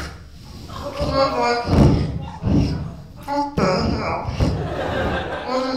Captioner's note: laughter